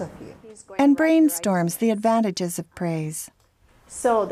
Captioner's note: voiceover